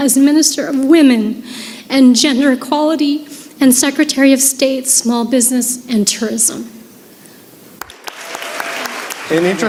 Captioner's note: applause